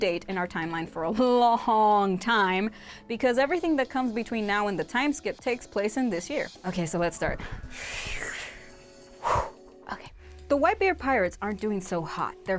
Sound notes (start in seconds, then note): 7.4 exhales; 7.4 inhales